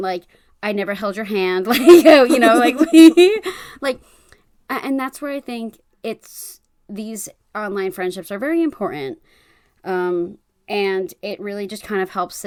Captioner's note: laughs